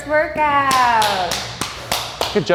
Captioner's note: clapping